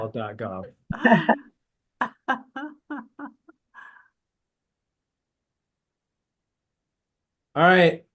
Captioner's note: laughter